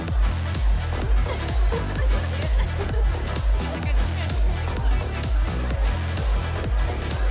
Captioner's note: Candace and Allie chattering and laughing